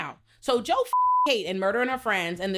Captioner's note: beep